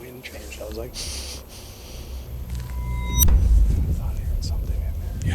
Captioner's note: sniffs